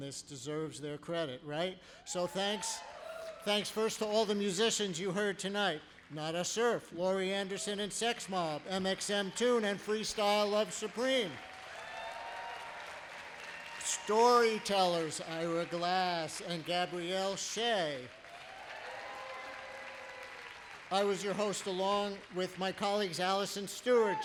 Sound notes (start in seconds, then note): 13.0 applause